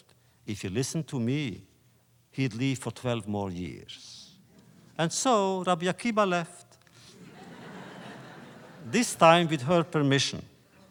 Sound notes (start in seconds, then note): 7.1 laughter